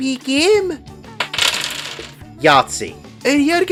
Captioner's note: dice rolling